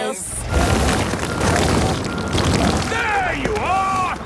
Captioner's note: rock crumbling